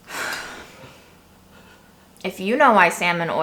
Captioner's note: sighs